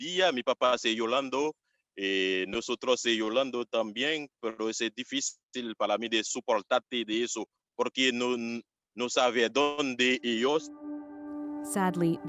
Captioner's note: speaking Foreign Language